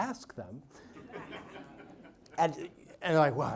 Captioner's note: audience laughs